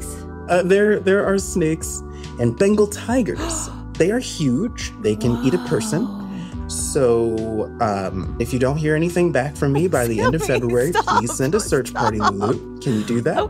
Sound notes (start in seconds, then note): 5.0 gasps; 9.7 laughing deeply, but nervously